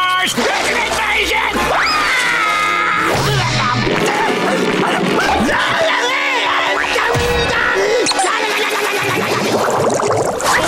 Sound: screaming

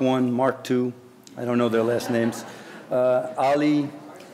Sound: audience laughing

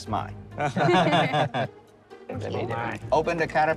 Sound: all chuckling

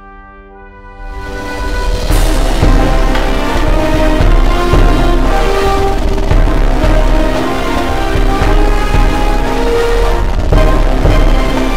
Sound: ear rape audio combined with rumbling

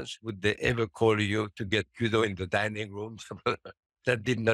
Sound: chuckles

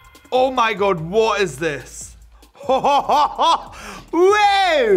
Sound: laughs

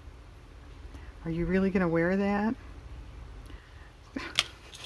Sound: laughs

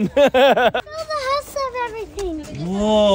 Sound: dad laughing

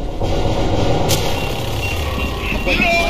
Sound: grenade beeping

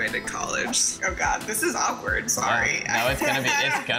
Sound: laughs

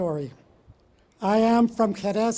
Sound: foreign words

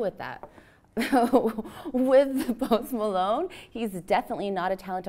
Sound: laughs

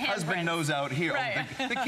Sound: laughter

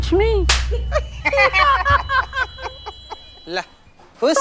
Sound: laughing

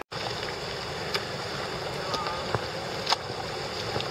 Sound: flowing water

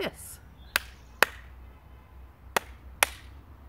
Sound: clap clap

